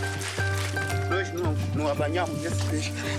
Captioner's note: Portuguese spoken audio